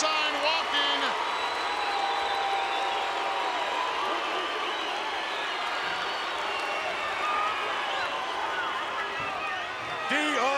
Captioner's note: applause